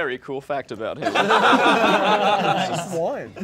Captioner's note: all laughing